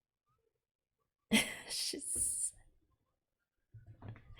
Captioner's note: laughs